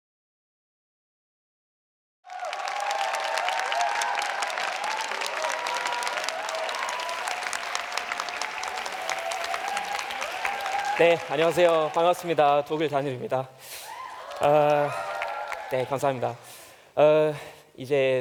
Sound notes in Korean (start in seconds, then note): 2.2 박수와 환호; 15.3 박수